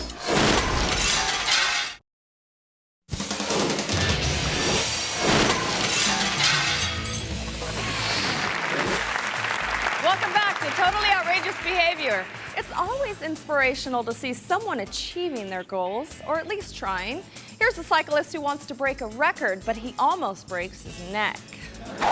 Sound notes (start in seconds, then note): 0.1 glass shattering; 3.1 energetic music; 5.1 glass shattering; 8.1 audience applause